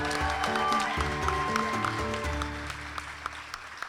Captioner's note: ^applause^